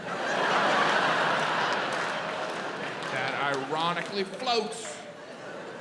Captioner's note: audience laughs